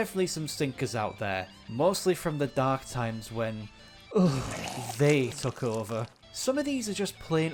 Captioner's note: shudders